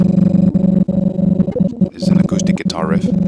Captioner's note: deep sound sample stuttering